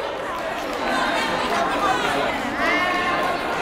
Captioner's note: yelling